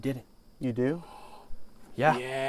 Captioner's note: dave gasps